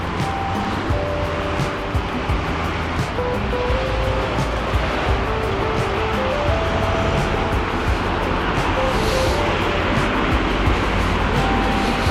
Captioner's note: wind Blowing